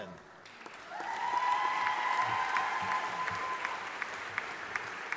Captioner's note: audience applauding